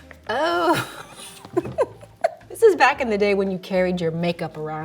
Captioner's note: laughing